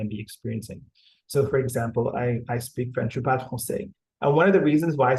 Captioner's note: speaking french